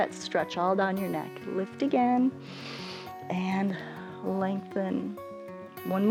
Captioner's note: inhales